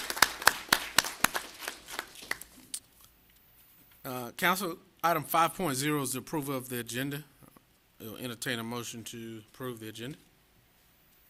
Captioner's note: applause